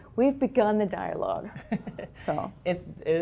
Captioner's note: laugh